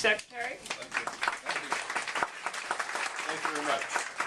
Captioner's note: applause